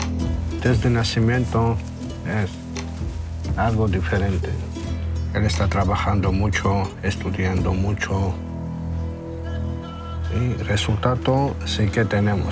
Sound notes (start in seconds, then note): 1.5 speaking in Spanish